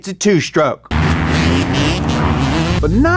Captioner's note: motorbike roaring